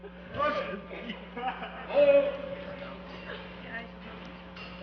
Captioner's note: muffled yelling